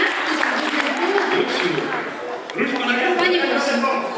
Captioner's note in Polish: Aplauz